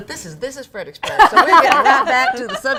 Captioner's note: laughs